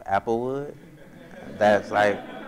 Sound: audience laughs

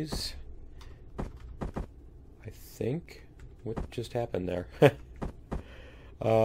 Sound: laughs

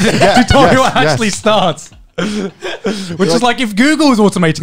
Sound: all laughing

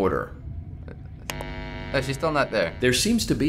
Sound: buzzing

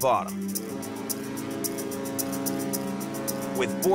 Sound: ship horn blares

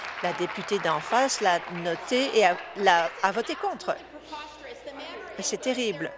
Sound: applause

